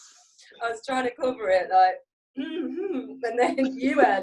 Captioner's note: clears throat